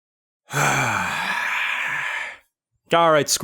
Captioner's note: sigh